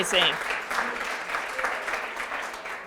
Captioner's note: applause